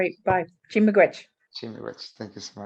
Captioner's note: speaking foreign language